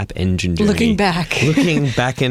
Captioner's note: laughs